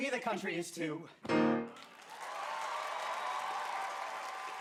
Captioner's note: audience cheering